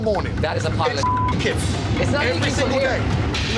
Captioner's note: beep